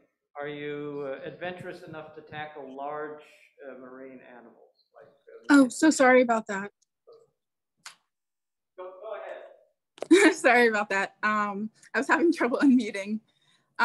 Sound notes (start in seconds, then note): 10.8 laughs